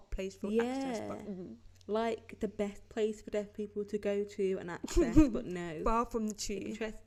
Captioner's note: snorts and chuckles